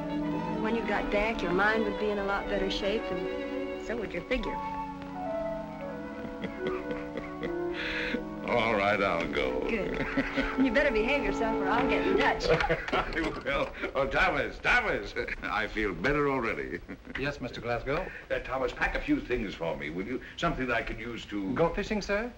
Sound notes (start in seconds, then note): 6.0 chuckling